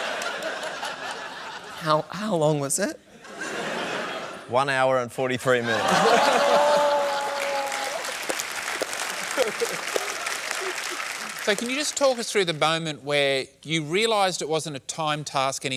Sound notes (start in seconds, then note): 2.7 laughter; 5.6 laughter and applause